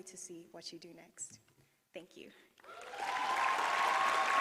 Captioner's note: applause